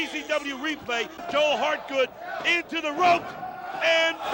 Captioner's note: crowd chatter